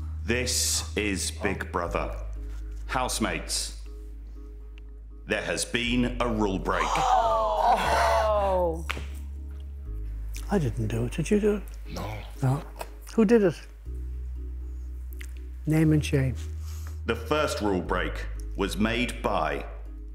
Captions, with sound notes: This is Big Brother, Housemates. There has been a rule break... [Gasping] Oh no! I didn't do it, did you do it? No. No? Who did it? Name and shame. The first rule break was made by...